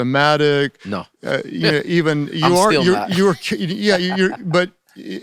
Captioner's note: laughs